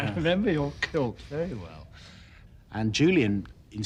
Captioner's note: laughter